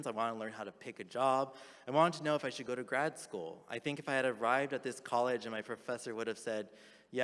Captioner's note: none